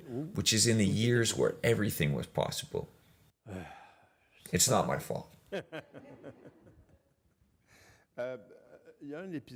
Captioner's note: laughs